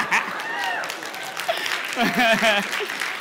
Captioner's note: laughter; applause